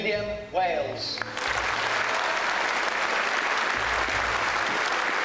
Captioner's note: voiceover; applause